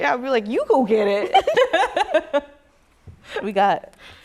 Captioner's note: laughter